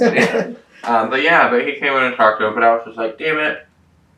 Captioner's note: laughter